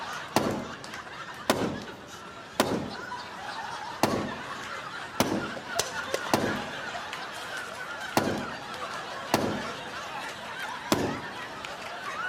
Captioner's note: laughter